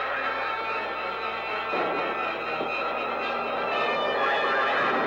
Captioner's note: explosions